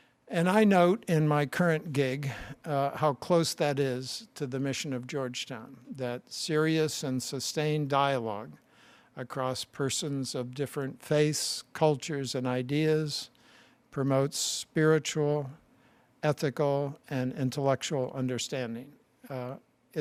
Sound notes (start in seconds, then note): none